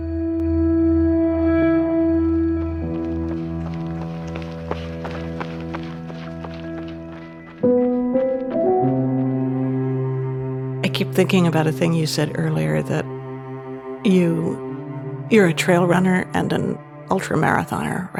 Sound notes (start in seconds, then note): 2.5 footsteps crunching